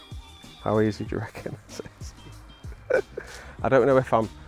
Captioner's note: laughs